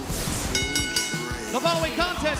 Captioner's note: bell ringing